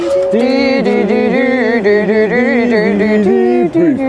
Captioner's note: everyone hums